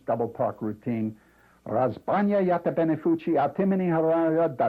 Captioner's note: non-english speech